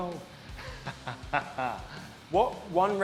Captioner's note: laughs